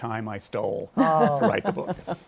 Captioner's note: chuckles